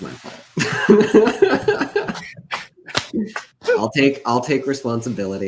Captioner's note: laughs